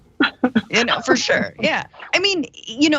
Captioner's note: laugh